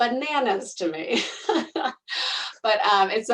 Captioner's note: laughing